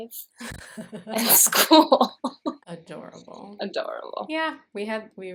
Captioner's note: laughter